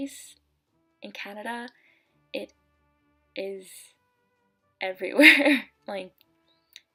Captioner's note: laugh